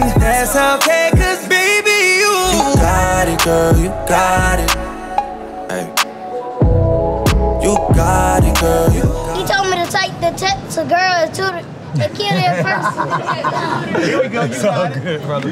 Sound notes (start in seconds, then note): 12.2 laughs